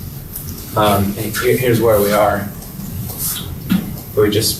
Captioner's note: mutters